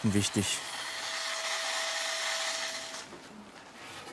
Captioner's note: high-pitched electrical whirring